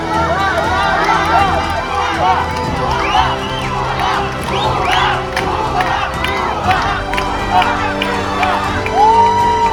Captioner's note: crowd